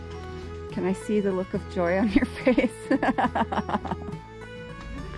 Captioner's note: laughing